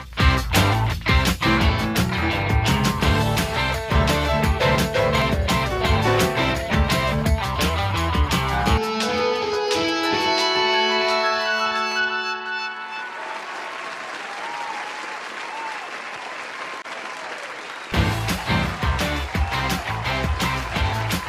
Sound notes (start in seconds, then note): 12.6 cheers; 12.9 applause; 17.9 energetic music